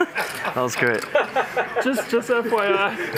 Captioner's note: laughter